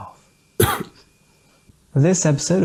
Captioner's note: cough